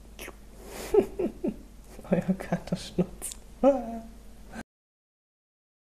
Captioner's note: chuckles